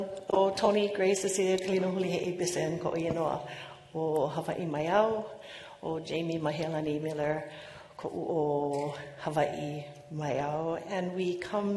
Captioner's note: speaking non-english